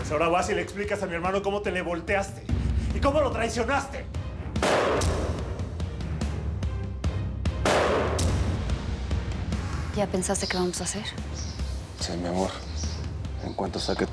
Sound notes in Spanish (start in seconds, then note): 7.6 Disparos